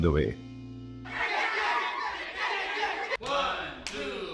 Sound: screams

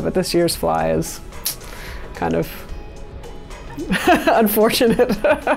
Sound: laughter

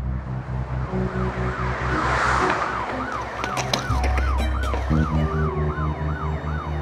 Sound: tense music; sirens blaring

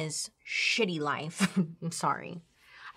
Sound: chuckles

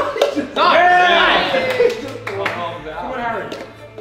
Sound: group cheering

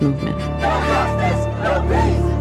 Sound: chanting

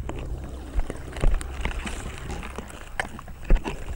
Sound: rattling

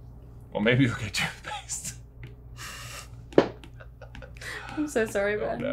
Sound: chuckles

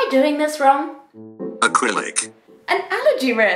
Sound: computer Voice

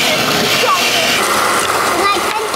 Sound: blending roaring

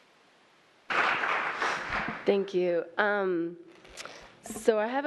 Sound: applause

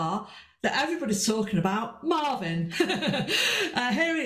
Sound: laughs

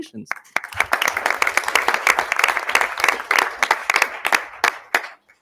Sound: audience applauding

